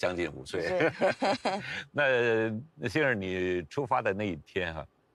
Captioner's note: laughs